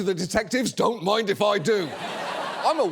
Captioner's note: audience laughs